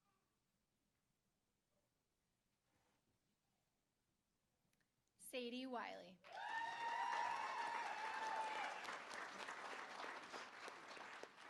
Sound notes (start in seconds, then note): 6.2 applause; 6.2 cheering